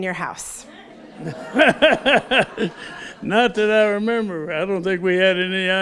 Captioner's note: laughs